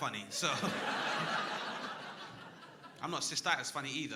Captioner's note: crowd laughing